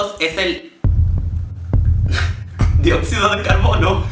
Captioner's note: heartbeat